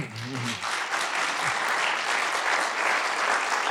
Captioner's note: audience clapping